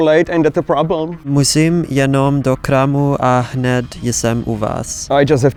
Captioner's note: speaking in Czech